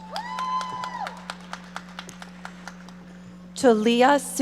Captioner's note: audience applauding